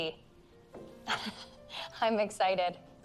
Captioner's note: laughs